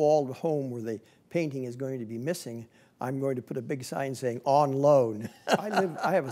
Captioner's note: laughing